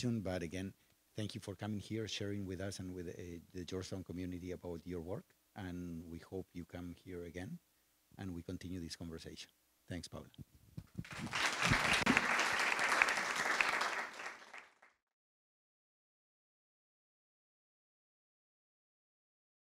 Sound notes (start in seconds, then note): 11.0 audience applauds